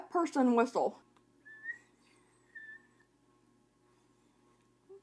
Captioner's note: whistling